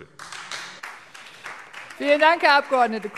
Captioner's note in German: Beifall SPD